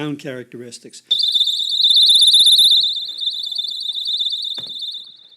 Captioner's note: blaring fast chirping